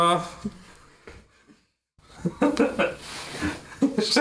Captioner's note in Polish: śmiech